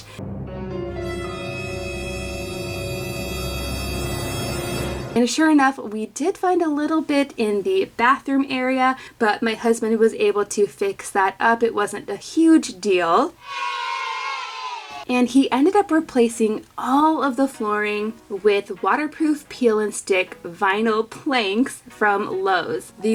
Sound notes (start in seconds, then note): 0.0 dramatic music; 13.4 kids cheer